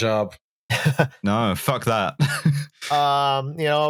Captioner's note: laughs